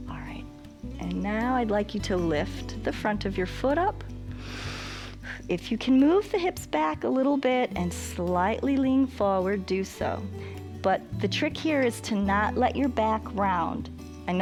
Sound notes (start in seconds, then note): 4.3 inhales